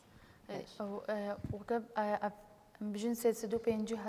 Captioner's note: speaking kurdish